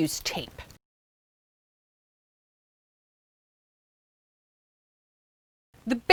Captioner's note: no Sound Present